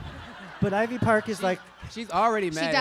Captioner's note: laughter